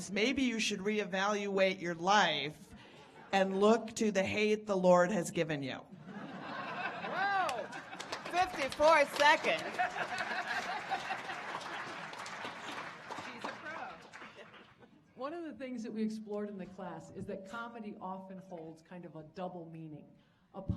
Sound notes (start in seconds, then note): 6.0 audience laughing; 10.9 audience applauding